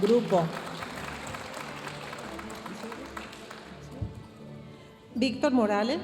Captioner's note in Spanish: aplausos de la audiencia